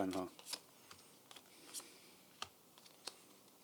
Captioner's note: take a deep breath